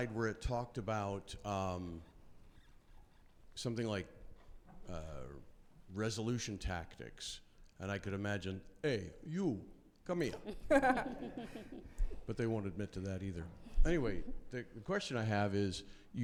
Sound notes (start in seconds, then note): 10.4 laughing